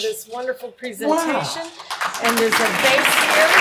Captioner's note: audience applauding